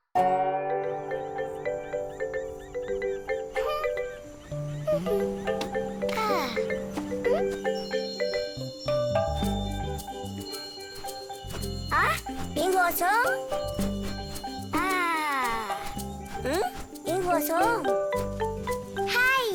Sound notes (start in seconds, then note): 0.4 bright music; 7.7 cheerful music; 7.7 chimes tinkling; 12.7 speaks in foreign language